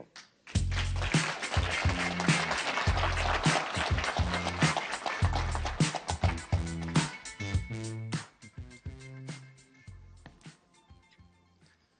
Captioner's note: applause